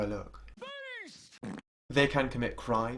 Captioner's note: farting